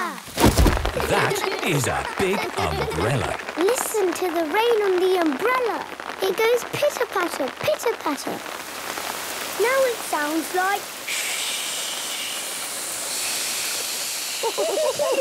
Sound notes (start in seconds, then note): 0.2 big umbrella opening; 3.6 raindrops pitter-pattering; 9.7 heavy rain